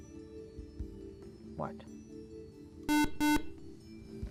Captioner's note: beeping